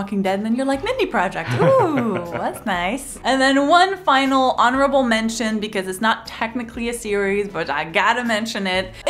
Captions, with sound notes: Walking Dead, then you're like, Mindy Project. Wooo, that's nice. (chuckles) And then one final honorable mention because it's not technically a series, but I gotta mention it.